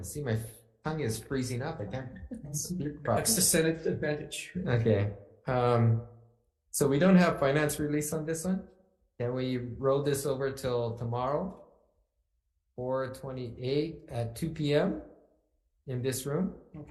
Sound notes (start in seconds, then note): 1.8 laughs